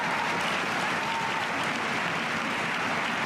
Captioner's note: cheers and applause